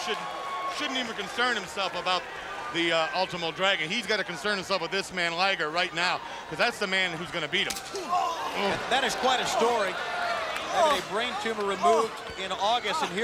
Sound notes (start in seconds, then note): 7.7 hand slaps